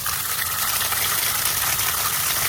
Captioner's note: water gushing